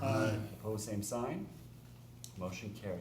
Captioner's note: chorus of ayes